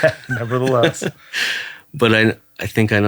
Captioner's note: laughing